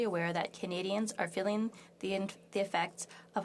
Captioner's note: speaking French